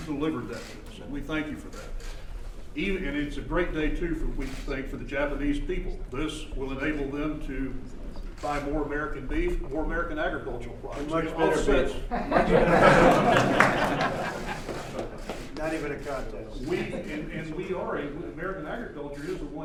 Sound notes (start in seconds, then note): 14.6 laughter